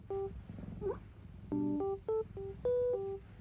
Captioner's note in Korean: 꾸릉